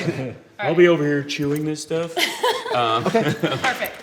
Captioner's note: light laughter